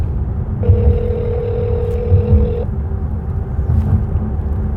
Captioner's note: phone ringing